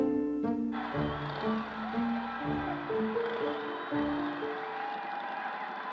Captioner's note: crowd cheering